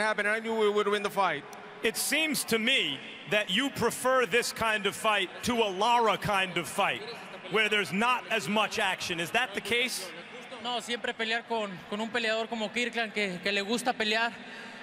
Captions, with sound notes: I knew we would win the fight. It seems to me that you prefer this kind of fight to a Lara kind of fight, where there's not as much action. Is that the case? [speaking Spanish]